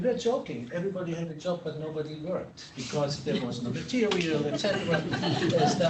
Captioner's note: laughter